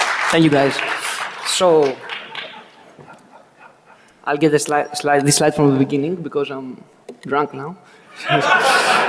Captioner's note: applause